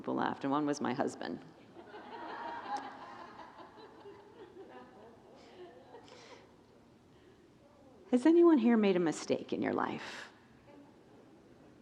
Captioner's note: congregants laugh